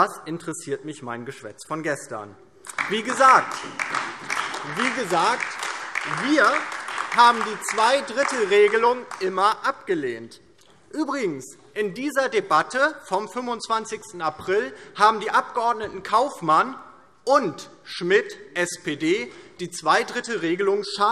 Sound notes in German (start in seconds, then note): 2.6 Beifall DIE LINKE, Freie Demokraten und AfD